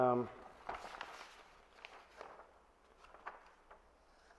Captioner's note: pages flip